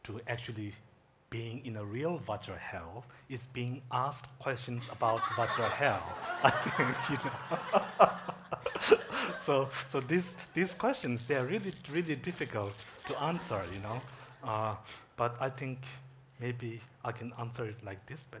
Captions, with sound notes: to actually being in a real Vajra Hell is being asked questions about Vajra Hell. (congregation laughing) So these questions, they are really, really difficult to answer. But I think maybe I can answer it like this